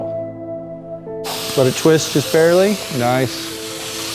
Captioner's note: air whooshing